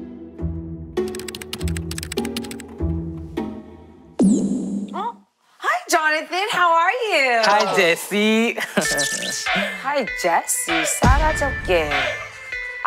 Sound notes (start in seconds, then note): 2.5 hesitant